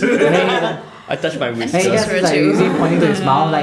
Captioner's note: laughter